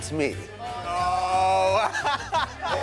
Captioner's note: all exclaiming